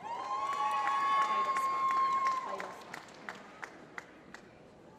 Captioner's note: applause